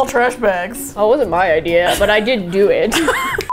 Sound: both laugh

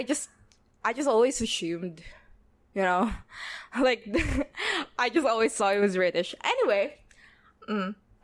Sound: laughs

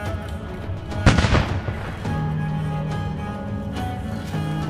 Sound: sings in foreign language; gun firing; upbeat music

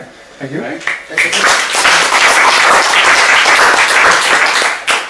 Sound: applause

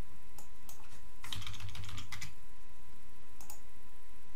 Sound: keyboard clicking

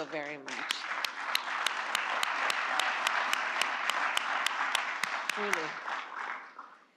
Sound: applause

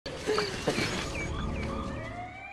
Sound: police car siren

